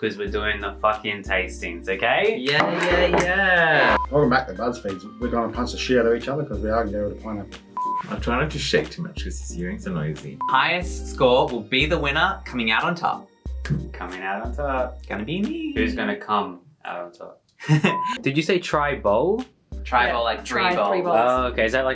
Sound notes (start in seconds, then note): 3.7 snaps; 4.2 reel beeps; 7.8 beeps; 10.4 beeps; 17.6 laughs; 17.8 beeps